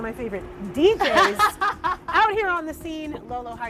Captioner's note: laughs